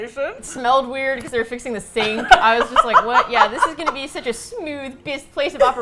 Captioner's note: laughs